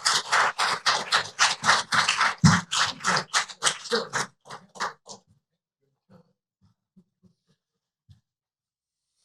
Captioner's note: applause